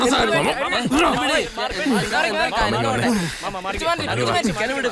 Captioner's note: chaotic voices